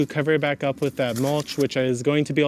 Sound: bag tears

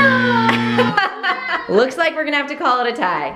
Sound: laughing

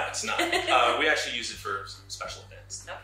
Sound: giggles

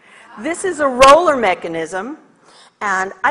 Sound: audience chatters

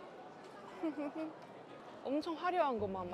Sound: laughing through my nose because I like it

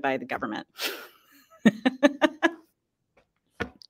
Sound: laughs

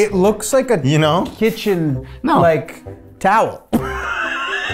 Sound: laughs

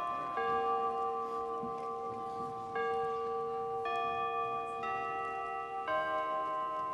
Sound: chime sound

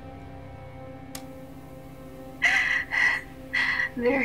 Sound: cassette clicks on

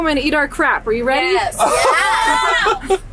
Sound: laughs

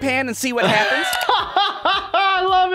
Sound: laughter

